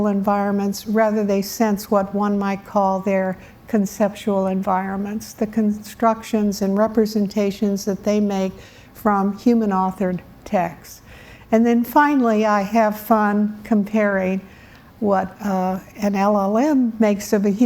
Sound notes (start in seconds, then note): none